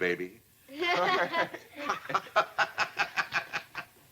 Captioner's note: laughter